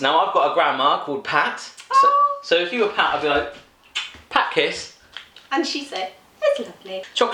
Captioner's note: kisses